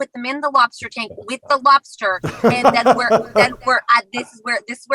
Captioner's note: host laughing